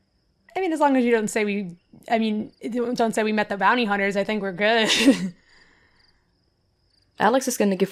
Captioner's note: chuckles